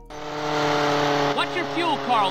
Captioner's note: RC plane revving